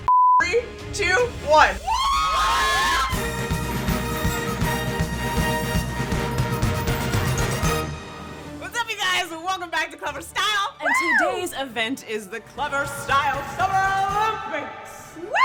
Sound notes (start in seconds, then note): 1.8 women screaming in excitement